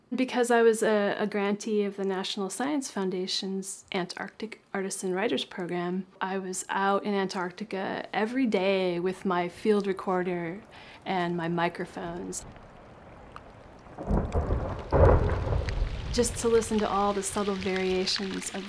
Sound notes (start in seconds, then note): 13.2 ice cracking